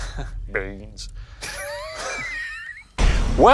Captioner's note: both laughing